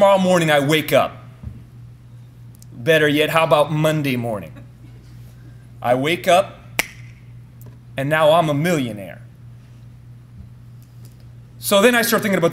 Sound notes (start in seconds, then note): 6.8 snaps